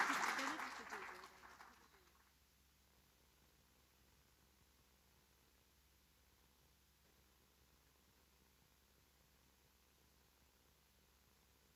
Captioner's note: audience applauding